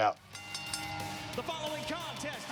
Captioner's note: bell dings